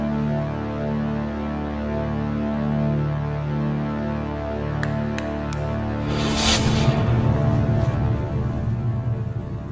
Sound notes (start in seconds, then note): 4.8 snapping his figures; 5.5 arrow striking the ground